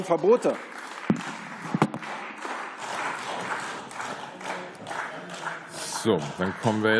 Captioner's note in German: Beifall